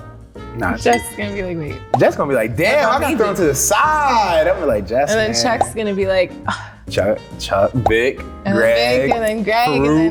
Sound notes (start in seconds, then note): 6.7 grunts faintly